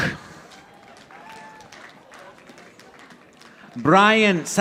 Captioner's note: audience applauding